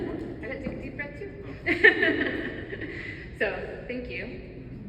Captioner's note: audience laughs; everyone laughs